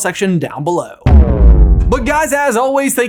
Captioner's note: dramatic boom